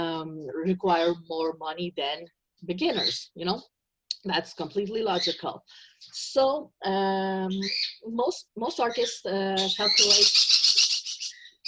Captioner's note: birds squawking